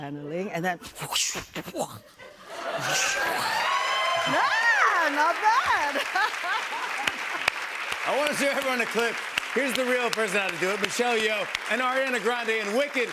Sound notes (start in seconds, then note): 2.0 laughter; 2.8 cheers and applause